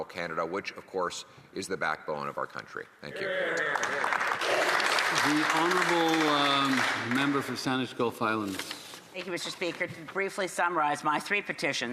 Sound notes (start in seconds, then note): 8.1 some Applause